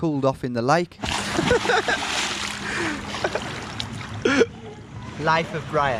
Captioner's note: water splashing; laughing